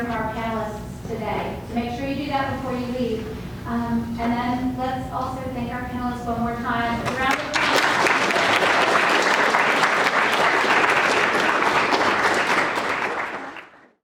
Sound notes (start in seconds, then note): 8.6 applause